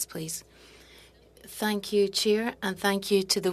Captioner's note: speaking French